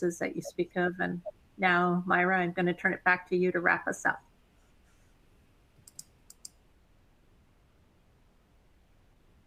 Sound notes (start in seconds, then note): 5.8 mouse clicking